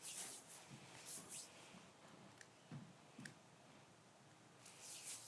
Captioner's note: none